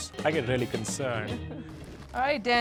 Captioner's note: laughs